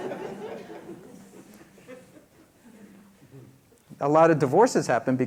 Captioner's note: laughter